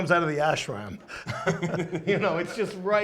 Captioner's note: laughs